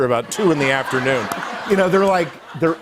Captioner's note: laughter